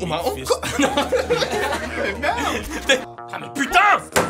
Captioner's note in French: rires